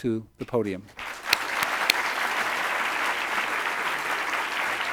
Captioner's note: audience applauds